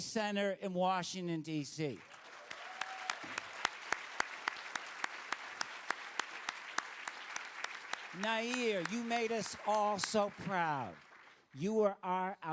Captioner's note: applause